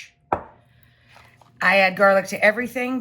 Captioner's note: bottle clanks